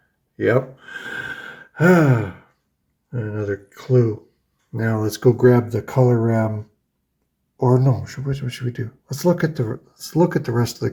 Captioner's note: sighs